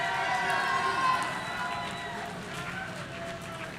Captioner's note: audience cheering